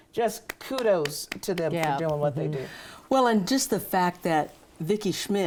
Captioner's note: claps